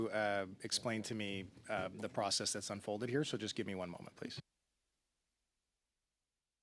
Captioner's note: speaking French